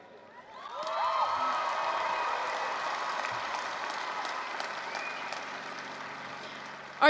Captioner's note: applause, cheering